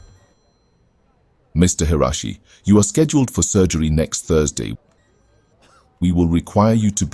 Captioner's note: hospital background sounds